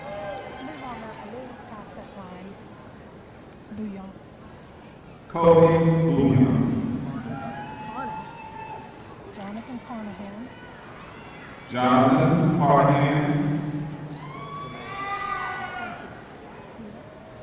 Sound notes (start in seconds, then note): 7.0 audience cheering; 13.7 audience cheering